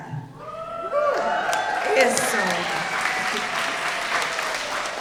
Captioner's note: audience cheering